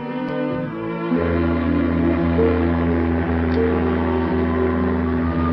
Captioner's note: ship horn blowing